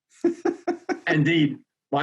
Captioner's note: laughs